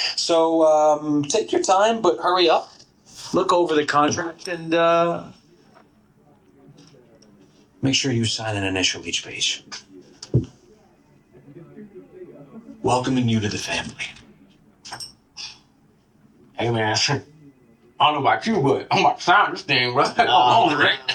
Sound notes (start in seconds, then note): 10.7 background office noise; 14.7 background office noise; 19.9 chuckles